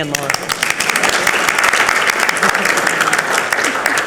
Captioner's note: participants clap